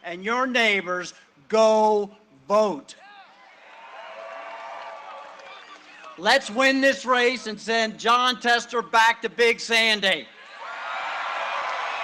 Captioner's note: cheering and applause